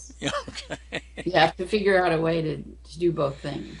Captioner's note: man laughing